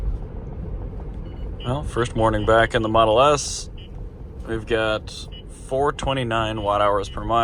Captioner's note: valentine one beeps with K band Radar